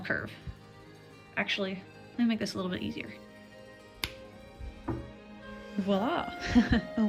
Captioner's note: snap